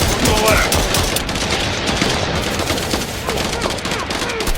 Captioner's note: guns blasting; troopers grunting